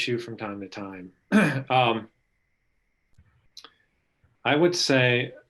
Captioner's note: clearing throat